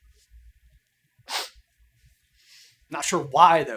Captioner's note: sniffles